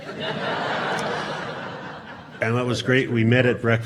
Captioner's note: audience laughing